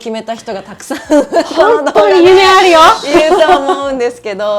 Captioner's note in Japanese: 笑い